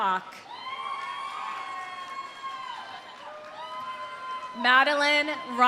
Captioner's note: audience cheering; audience applauding